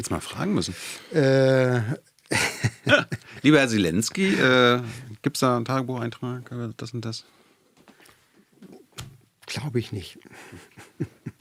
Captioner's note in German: gelächter